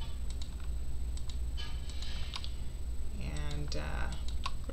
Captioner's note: mouse clicking